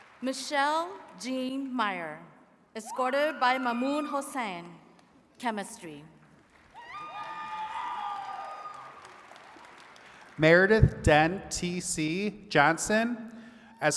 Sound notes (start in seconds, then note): 0.0 attendees clapping; 6.4 attendees cheering and clapping